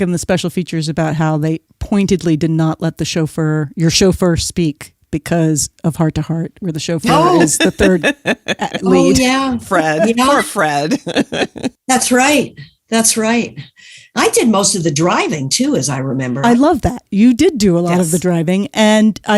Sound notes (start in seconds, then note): 8.4 guffaw; 10.9 laughs